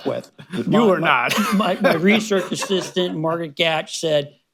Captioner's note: laughs; laughter